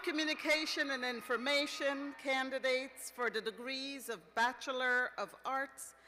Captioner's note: cheers